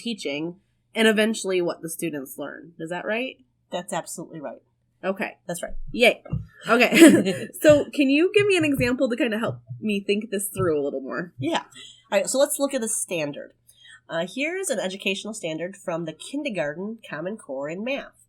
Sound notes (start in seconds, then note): 6.5 laugh